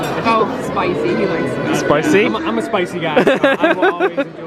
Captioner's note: laughs